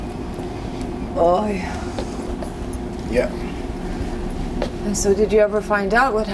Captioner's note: yiddish